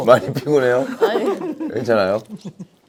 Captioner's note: haha